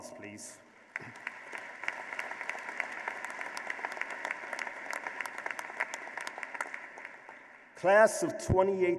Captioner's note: applause